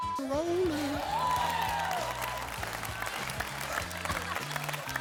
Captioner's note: audience cheers